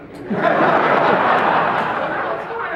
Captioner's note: laughter